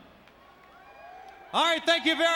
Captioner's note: audience cheers